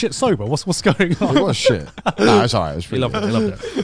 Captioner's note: laughing